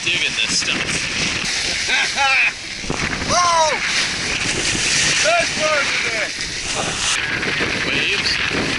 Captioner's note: laughing